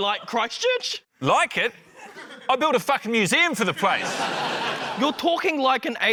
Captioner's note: laughter